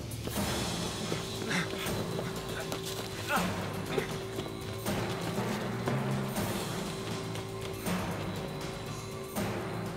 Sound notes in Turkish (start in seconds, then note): 0.0 Ayak sesleri; 1.3 Nefes sesleri